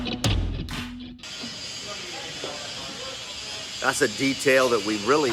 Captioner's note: machine whirring